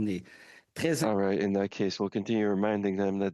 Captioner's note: speaking in French